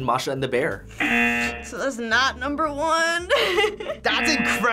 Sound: buzzer rings; laughs

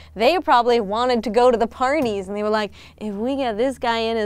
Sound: none

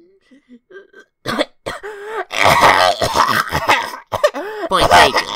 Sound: coughing

